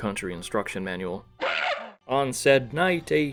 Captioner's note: gorilla cry